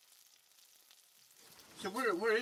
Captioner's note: food sizzling